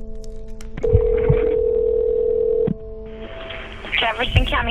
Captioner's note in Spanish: teléfono suena